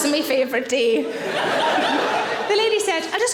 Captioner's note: audience laughing